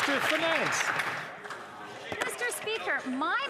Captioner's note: some Applause